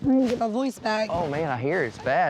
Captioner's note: in scratchy voice